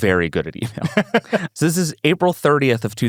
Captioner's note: laughs